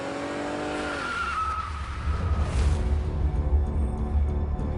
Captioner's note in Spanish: Ruido del carro; Chirrido de gomas